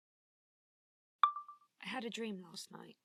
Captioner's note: chime of a phone recorder turning on